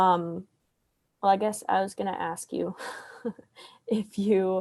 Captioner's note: laughs